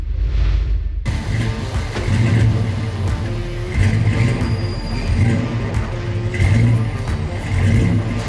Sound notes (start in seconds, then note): 1.0 engine revving; 1.1 upbeat music